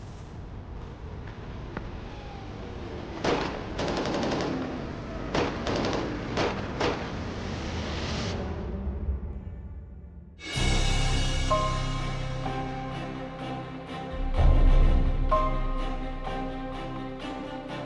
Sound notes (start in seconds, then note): 3.4 rapid gunfire; 10.6 dramatic music